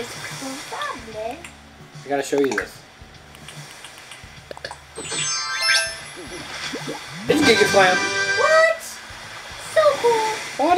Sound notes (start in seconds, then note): 3.2 button noises; 5.0 chime sounds; 7.3 excited trumpet noise